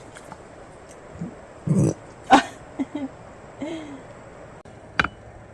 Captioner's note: Bokdaeng's whining sound